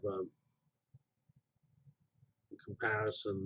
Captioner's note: pause